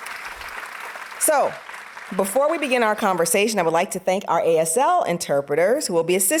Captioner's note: audience applauding